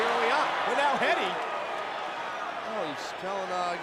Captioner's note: spectators cheering